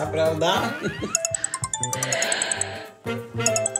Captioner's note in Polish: sygnał przychodzącego połączenia